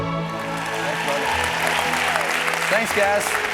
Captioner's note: audience applause